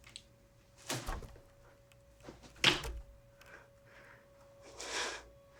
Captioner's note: headboard rattling